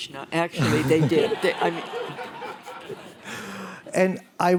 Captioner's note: laughter